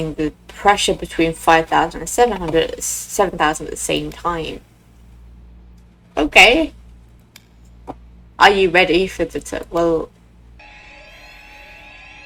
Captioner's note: flashback to every alarm going off at once